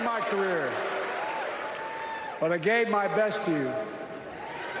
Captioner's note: cheers and applause